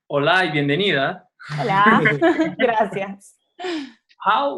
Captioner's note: chuckles; chuckling